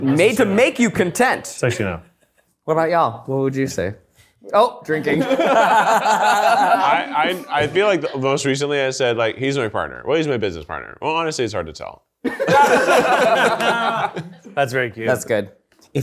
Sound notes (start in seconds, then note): 5.1 laughs; 12.2 people laughing